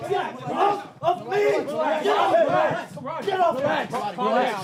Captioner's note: screaming